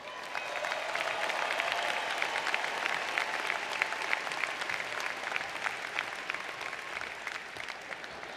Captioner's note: applause